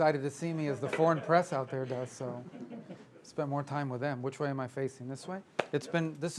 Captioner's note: laughter